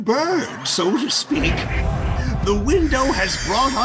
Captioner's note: audience laughing